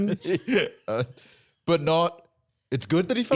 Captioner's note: laughs